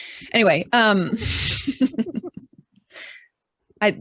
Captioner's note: both laugh